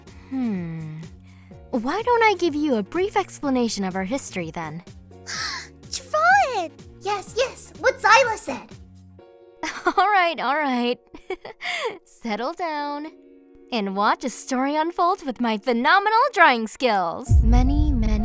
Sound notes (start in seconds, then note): 5.2 gasp of excitement; 10.9 softly laughs